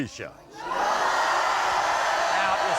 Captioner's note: crowd shouting